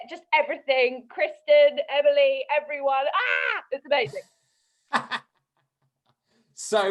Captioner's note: screams; laughter